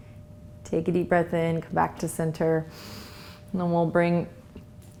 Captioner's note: inhales